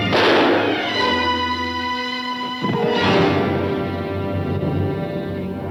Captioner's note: gun firing; dramatic music